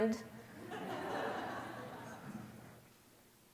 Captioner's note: laughter